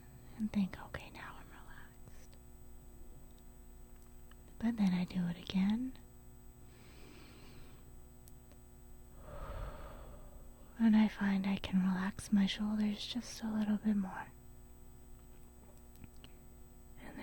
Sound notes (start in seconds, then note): 6.8 breath in; 6.8 breath out